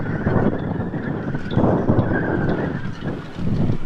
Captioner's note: wind howling